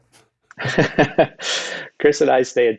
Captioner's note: Jeremy chuckles